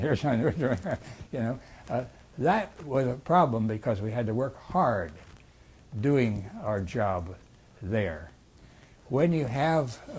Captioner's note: laughs